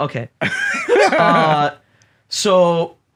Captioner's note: laugh